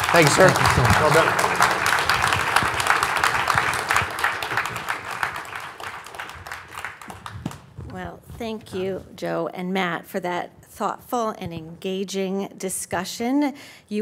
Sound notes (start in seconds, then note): 1.8 audience applauds